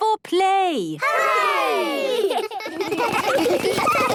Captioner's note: laughter